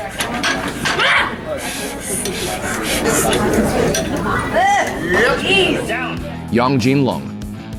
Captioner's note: intense grunting